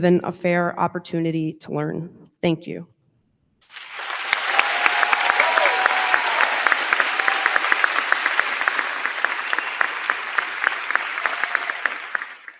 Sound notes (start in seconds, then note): 3.6 crowd cheering; 3.6 crowd clapping